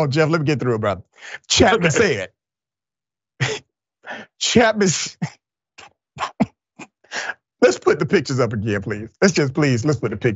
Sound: laugh; laugh

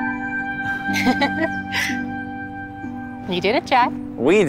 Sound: woman laughing

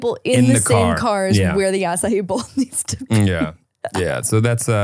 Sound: laughing

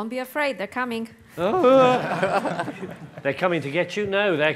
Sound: panel and audience laughs

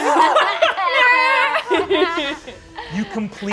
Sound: all laughing

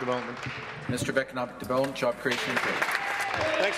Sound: some Applause

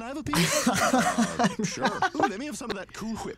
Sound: laughs

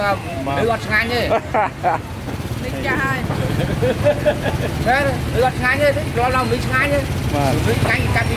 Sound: laughing

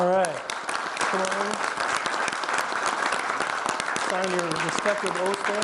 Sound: audience and trustees clap

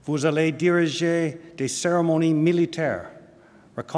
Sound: speaking french

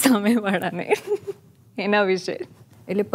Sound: chuckles

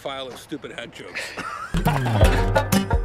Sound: Kevin and Jeff laughing; upbeat music

